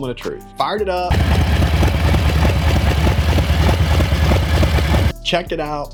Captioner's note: bike engine roaring